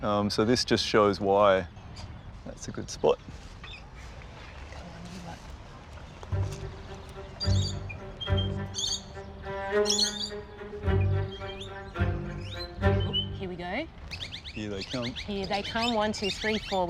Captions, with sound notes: So, this just shows why. That's a good spot. Come on, you lot. (BIRD CALLS PLAY) Oh, here we go. Here they come. Here they come. One, two, three, four.